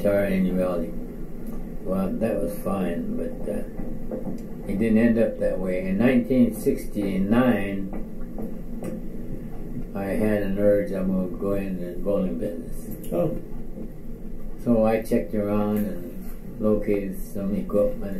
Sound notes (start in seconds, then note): none